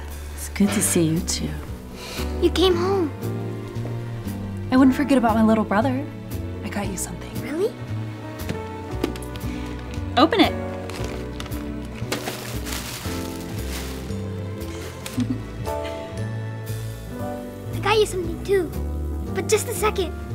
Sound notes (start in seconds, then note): 12.5 paper rustling; 15.0 sister giggles